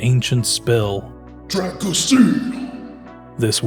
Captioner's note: deep voice